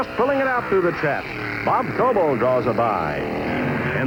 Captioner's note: engines roaring